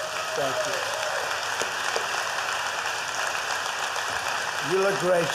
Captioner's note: applause